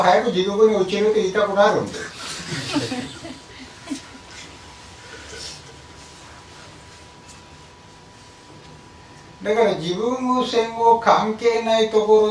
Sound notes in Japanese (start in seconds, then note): 2.4 笑い声